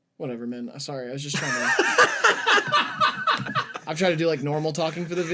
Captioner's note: laughing